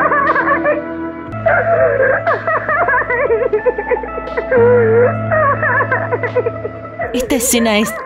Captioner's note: heartbreaking cry